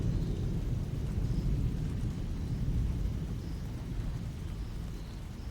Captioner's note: the thunderstorm continues